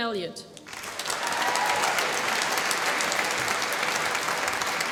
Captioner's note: applause